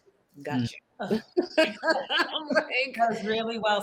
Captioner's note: participants laugh